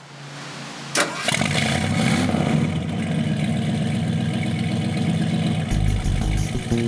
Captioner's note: car engine revving and rumbling; groovy music